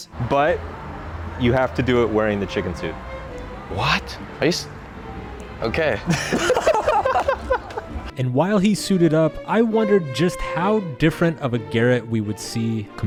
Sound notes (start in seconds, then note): 6.0 both Laughing